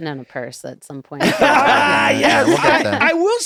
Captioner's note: group laughs